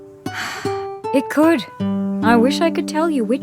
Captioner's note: sighs